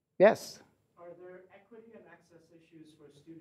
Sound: voiceover

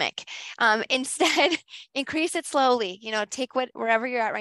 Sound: laughs

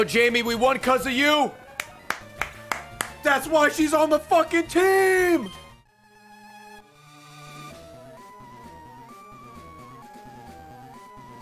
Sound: claps

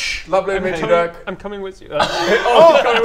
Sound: tearful

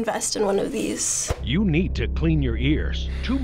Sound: voice-over

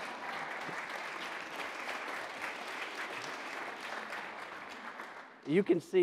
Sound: audience applauding

